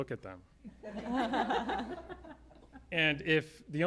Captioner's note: laughter